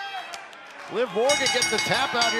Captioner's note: bell ringing